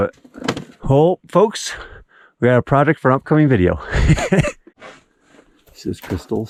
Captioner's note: laughing